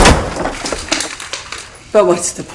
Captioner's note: gunshot; bits of wall-crumbling